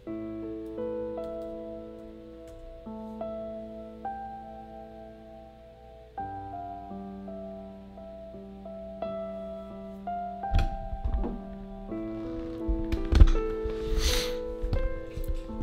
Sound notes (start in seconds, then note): 13.8 sniffles